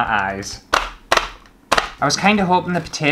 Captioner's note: stabbing Plastic